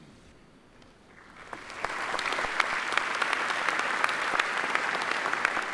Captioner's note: audience applauding